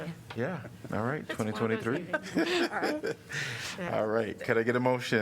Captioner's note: laughter